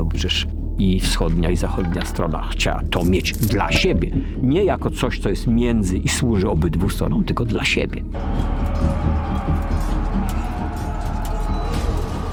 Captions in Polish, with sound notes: bo przecież i wschodnia, i zachodnia strona chciała to mieć dla siebie, nie jako coś, co jest między i służy obydwu stronom, tylko dla siebie. [odgłosy walki]